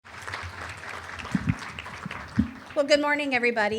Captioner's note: applause